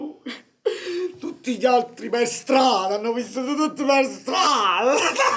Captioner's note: cries